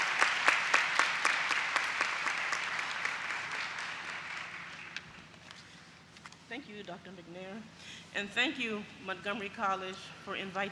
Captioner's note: applause